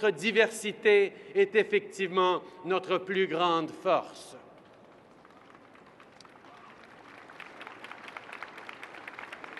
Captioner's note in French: Applaudissements